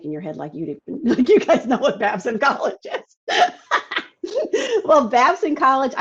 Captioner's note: laughs